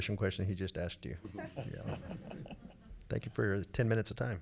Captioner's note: laughing